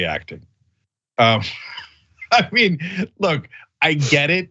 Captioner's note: laugh